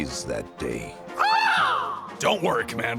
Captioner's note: caws